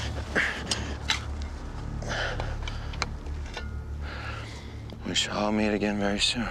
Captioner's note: digging